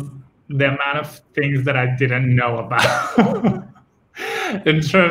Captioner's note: laughs